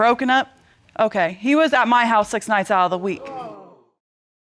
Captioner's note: audience exclaiming